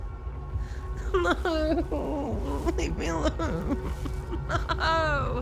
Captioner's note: sobbing